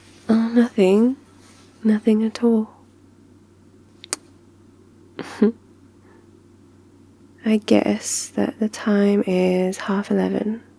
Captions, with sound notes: oh nothing, nothing at all... *kiss* I guess that the time is half eleven